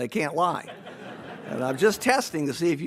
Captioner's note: audience laughs